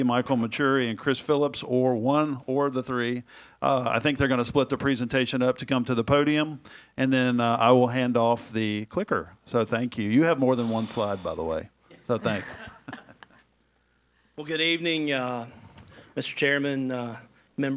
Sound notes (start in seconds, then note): 11.9 all laughing